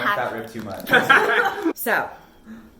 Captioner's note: laughs